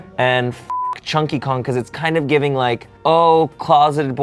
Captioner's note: beep